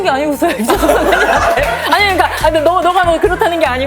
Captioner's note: hahaha